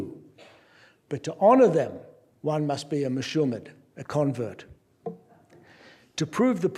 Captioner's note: non-english speech